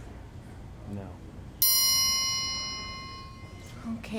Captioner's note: ding